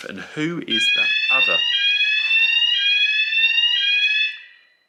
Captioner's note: alarm